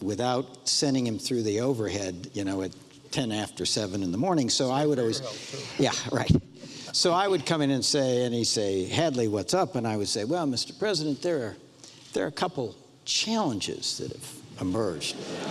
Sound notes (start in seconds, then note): 5.3 overlapping chatter